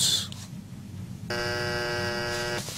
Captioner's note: buzzer